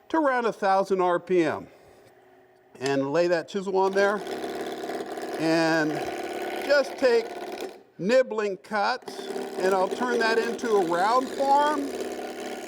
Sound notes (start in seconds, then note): 3.8 chisel grinding on wood